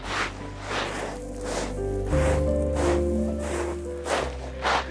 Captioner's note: crunching footsteps